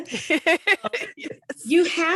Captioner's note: laughs